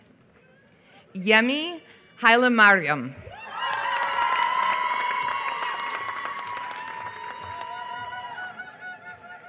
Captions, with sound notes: Yemi Hallemariam. [APPLAUSE]